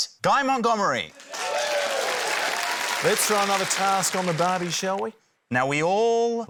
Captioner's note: cheering, applause